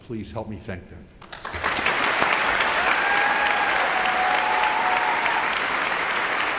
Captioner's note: audience applauding and cheering